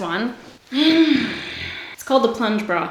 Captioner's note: sighs